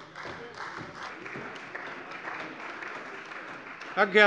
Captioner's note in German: Beifall bei der CDU